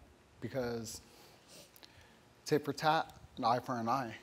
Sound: none

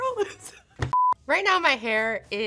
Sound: TV beeps

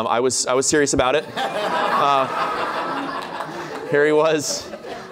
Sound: laughter

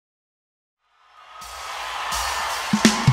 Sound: crowd cheers

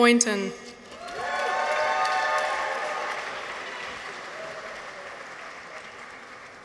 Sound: people cheer; audience applauds

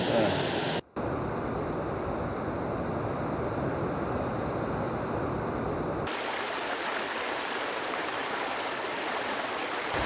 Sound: raging water sounds

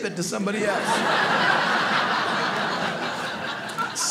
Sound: audience laughing

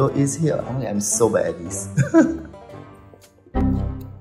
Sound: laughs

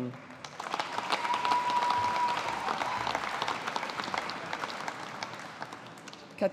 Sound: audience applauding

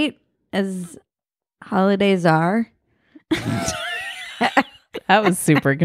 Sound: laughing

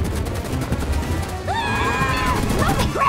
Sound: screaming

